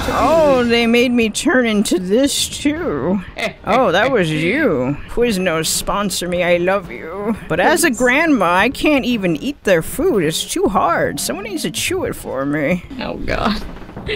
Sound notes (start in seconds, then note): 3.0 evil giggling